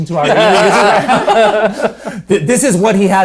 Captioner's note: all laughs